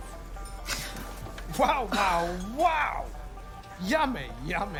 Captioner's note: gasps